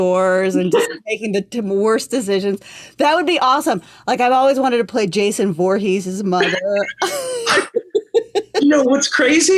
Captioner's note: laughter